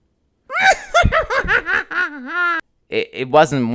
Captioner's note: evil laugh